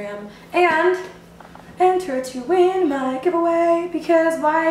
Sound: singsong

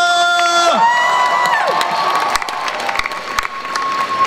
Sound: crowd applauds

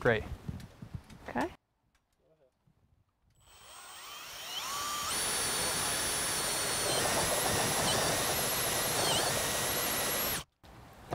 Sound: drill whirring, no additional audio

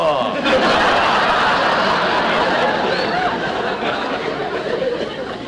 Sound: audience Laughing

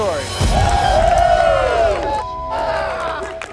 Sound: cheering

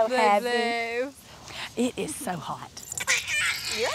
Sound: babies cry

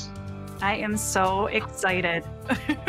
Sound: chuckling

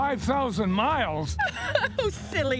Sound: laughing

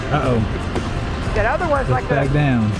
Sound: male Voice

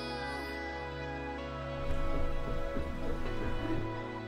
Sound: running sounds

